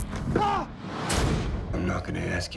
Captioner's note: screaming